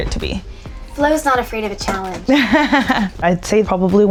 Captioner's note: laughing